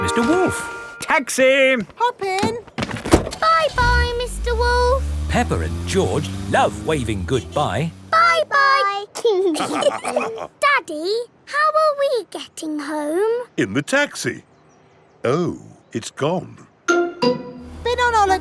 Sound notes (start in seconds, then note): 3.0 engine starts; 9.5 all laughing